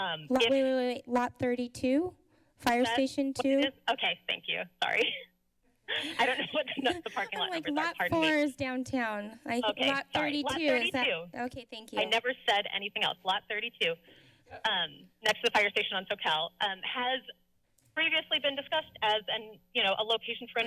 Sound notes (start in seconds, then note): 5.9 laughs